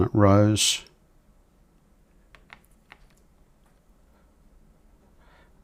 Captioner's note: silence